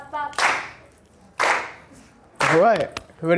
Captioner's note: clapping